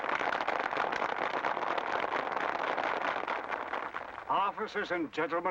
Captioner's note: applause